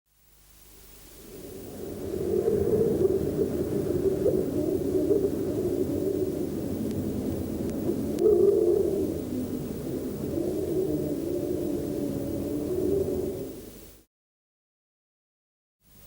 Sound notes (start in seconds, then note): 1.0 wind whistles; 8.3 wind continues whistling